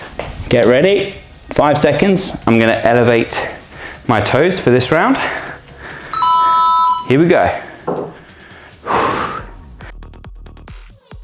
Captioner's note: sighs